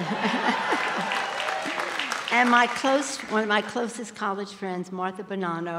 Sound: applause

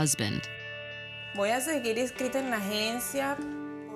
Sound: speaking spanish

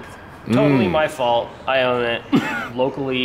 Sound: laughs

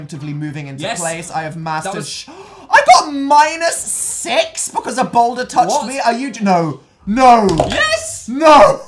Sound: gasp

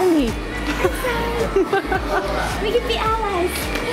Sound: laughs

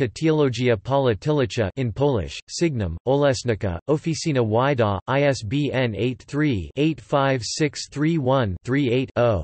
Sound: in Polish

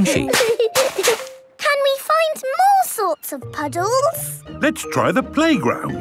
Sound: laughter

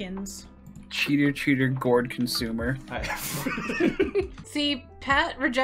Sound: laughter

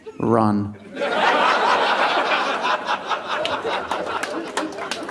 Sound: audience laughing

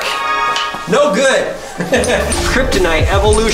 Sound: chuckles

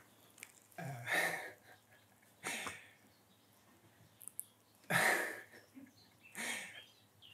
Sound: laughs

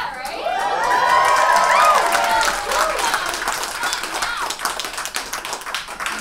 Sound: audience cheers and applauds

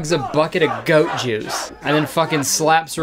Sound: crowd

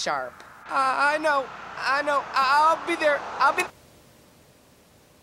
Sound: click

